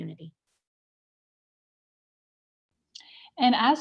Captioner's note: silence